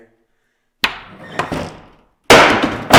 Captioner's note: door thuds; board thuds